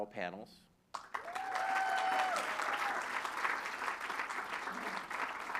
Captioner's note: applause